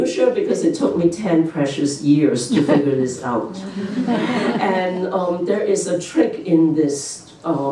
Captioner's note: laughter